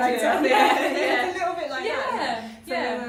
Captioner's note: they laugh heartily